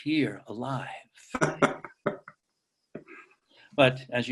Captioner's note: Julian laughs